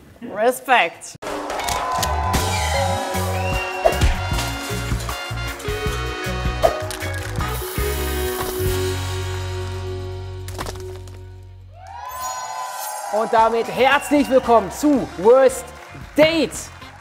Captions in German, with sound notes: Respect! (Heitere Musik) (Jubel, Pfiffe) (Musik verklingt.) (Jubel) Und damit herzlich willkommen zu "Worst Date"!